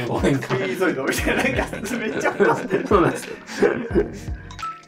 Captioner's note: laughing